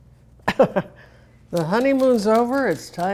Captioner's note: chuckling